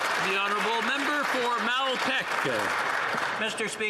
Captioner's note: some Applause